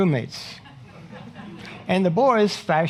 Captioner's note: audience laughing